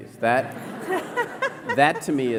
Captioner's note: laughter